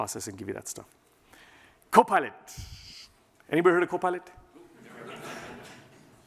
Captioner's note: laughter